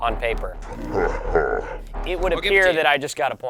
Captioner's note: laughs